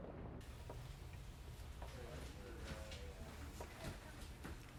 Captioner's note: muffled chatter